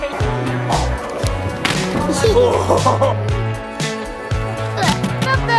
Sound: money bag drops in bucket, then laugh

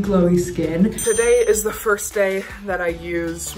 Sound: bell dings

